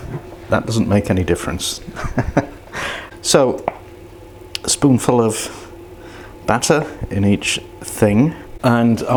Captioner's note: laughs